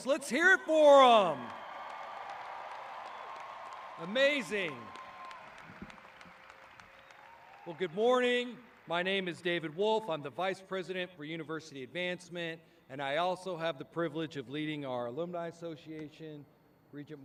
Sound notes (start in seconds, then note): 1.9 audience cheering